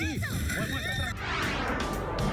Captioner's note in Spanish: gritos y exclamaciones